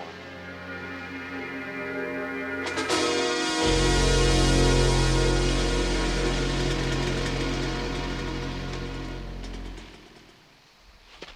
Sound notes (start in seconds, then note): 0.1 eerie music; 2.8 dramatic music; 5.7 motorbikes rumbling